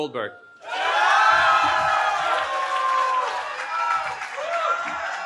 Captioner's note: cheering